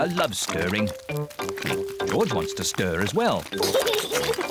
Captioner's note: oinks; giggles